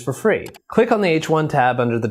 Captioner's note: mouse clicks